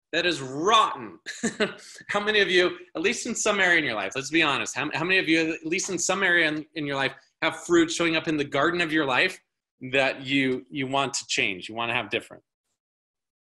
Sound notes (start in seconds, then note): 1.2 laughing